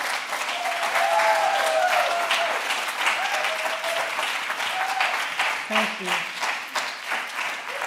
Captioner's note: cheering and applause